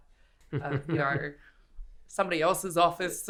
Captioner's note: laughing